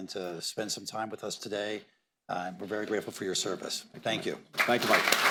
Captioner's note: applause